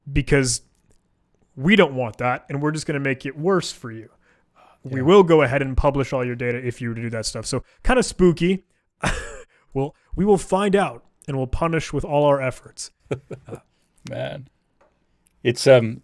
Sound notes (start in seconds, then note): 9.0 chuckling; 13.0 laughing